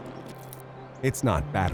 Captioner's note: plant creaks